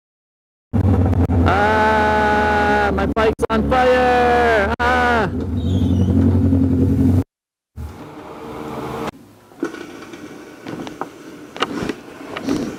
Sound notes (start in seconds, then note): 0.8 motorcycle engine